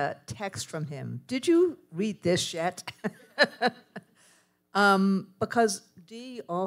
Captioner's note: laughs